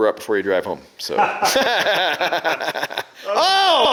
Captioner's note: laughing